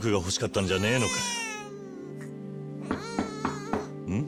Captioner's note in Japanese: 泣き声